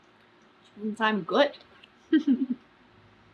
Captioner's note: laughs